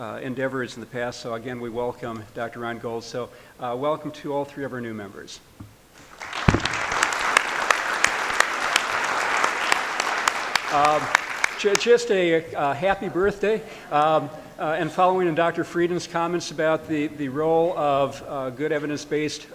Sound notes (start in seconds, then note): 5.9 applause